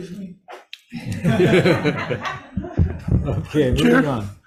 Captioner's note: all laughing